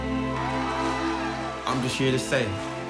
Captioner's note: cheering